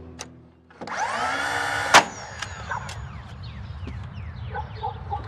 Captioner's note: tool whirring